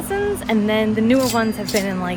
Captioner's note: cash register dings